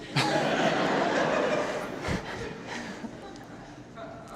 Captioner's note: audience laughter